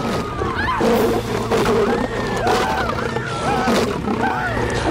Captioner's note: Screaming Continues